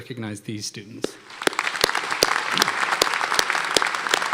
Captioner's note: applause